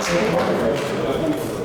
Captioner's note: clapping